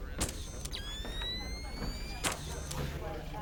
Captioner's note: flash whirs